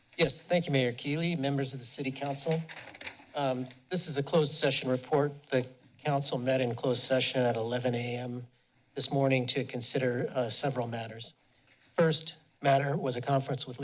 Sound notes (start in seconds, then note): 2.1 papers shuffling